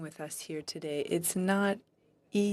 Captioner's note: speaking French